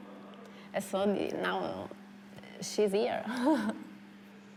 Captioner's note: chuckles